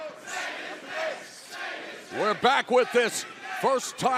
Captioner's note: fans chanting